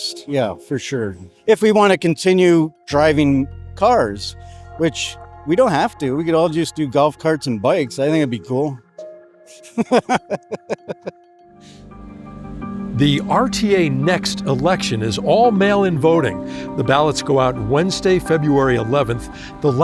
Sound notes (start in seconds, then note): 9.5 laughing